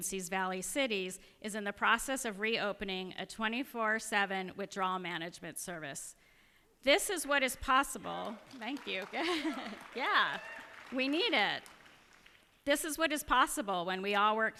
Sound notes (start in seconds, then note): 8.3 cheers and applause; 9.1 chuckles